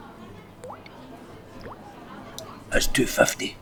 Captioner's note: plopping